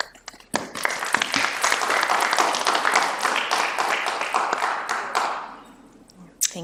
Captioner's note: applause